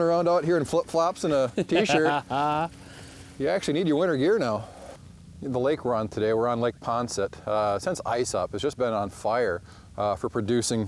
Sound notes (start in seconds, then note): 1.2 laughs